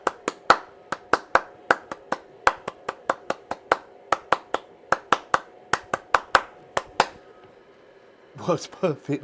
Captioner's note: clapping